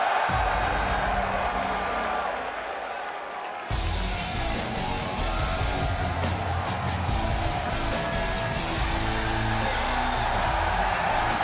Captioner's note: crowd cheering